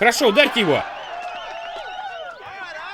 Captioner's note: cheering and applause